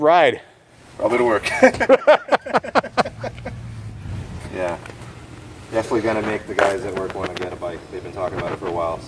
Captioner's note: laughing